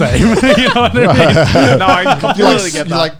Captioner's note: laughing